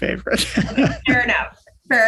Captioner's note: laughing